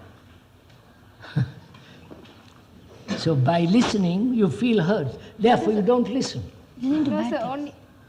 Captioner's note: laughs